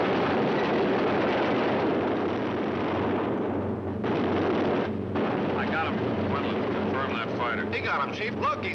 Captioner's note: explosion